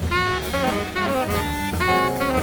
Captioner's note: audience applauds; cool jazz music